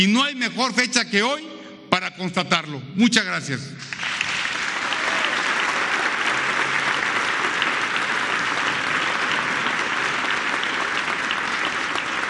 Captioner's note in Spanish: aplausos